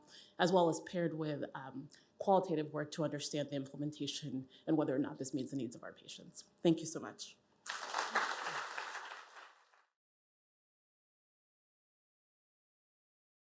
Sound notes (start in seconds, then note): 7.6 applause